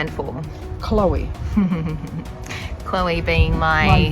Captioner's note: laughs